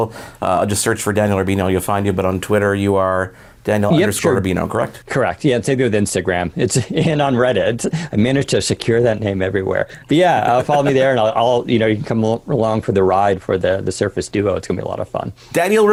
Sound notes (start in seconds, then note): 6.6 chuckling